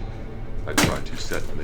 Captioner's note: wrench thudding